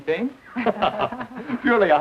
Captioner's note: all laughing